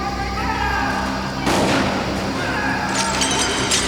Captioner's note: gun fires; glass shatters